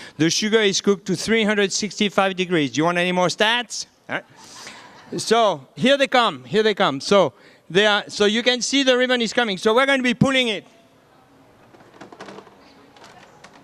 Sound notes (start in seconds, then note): 4.3 audience laughing